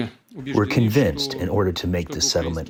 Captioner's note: through translator